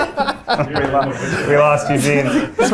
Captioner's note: everybody laughing